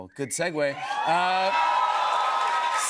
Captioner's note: cheers and applause